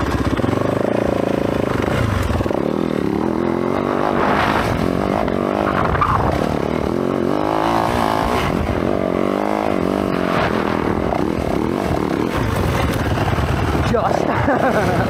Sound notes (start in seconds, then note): 8.8 engine revving; 14.0 laughs